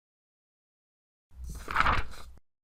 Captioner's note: paper flap